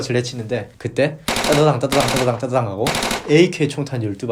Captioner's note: bang bang bang